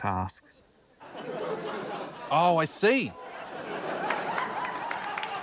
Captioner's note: laughter, applause